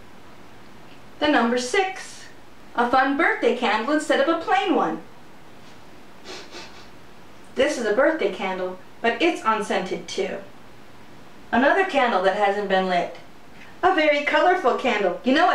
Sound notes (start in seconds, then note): 6.2 sniffing